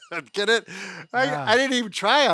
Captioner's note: chuckles